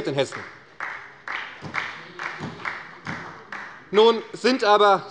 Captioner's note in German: Beifall bei Abgeordneten der SPD